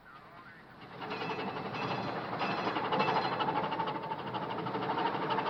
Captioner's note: metal clanking